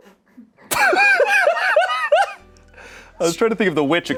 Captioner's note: laughs